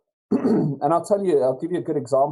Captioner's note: clears throat